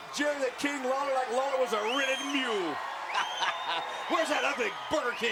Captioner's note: laughs